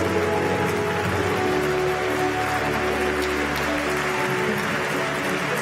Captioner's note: applause